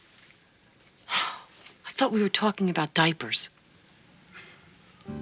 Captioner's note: sigh